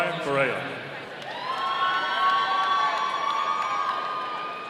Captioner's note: audience cheering